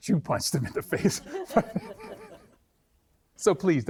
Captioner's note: all laughing